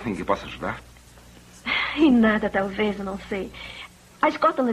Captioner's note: sighs